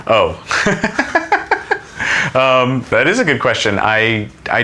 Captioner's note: laughs